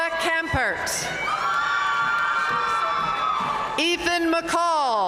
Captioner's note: audience cheering and applauding